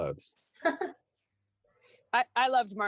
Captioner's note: someone laughs